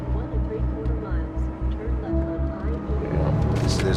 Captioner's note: GPS speaking